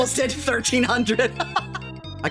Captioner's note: laughing